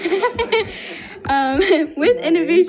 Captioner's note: group laughs